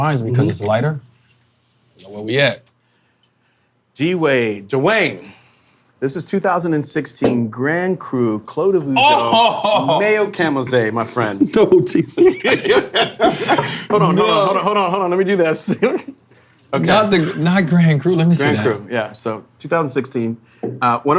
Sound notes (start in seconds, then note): 11.2 laughing